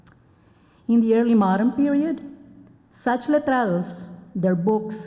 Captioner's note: spanish